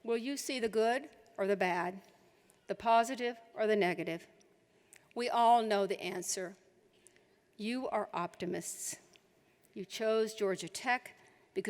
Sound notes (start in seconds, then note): none